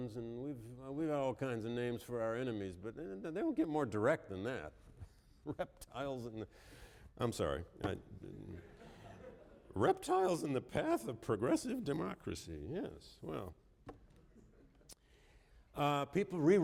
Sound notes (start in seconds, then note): 8.5 laughter